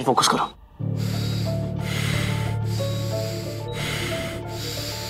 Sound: laboured breathing

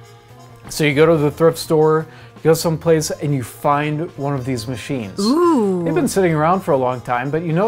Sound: female voice: oooohhh

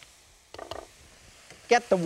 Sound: plate thuds softly

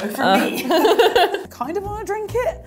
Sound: laughs

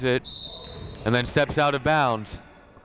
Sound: whistle blowing

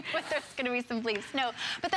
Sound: laughter

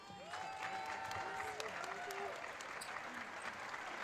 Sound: audience applauds

